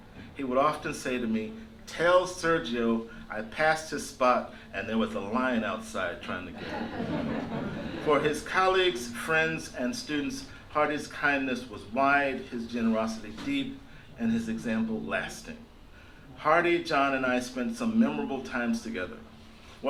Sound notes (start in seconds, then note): 6.5 laughter